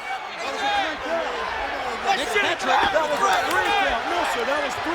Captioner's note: group chattering